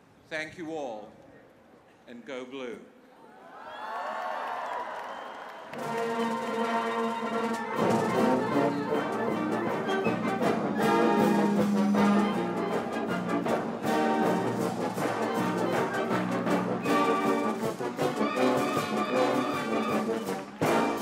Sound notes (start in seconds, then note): 6.4 cheers and applause